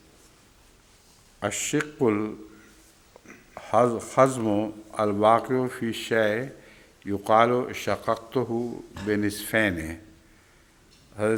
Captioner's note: Arabic